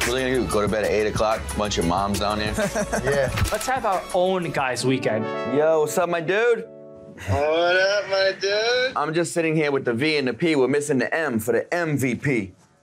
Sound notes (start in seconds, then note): 2.6 laughing